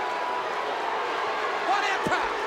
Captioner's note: crowd boos